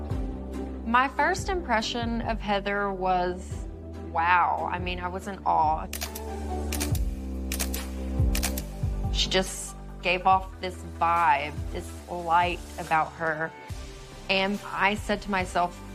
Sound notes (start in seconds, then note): 5.8 camera shutter clicking